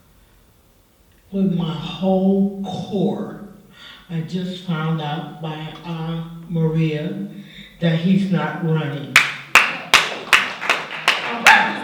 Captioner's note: clapping